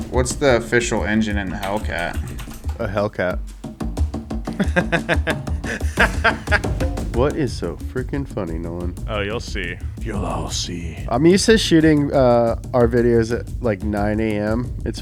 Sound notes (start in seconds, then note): 4.5 hysterically laughs